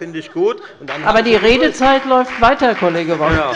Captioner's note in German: Beifall bei der LINKEN und der FDP sowie bei Abgeordneten der SPD